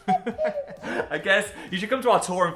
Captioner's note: laughing